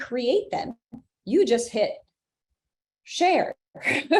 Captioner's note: laughs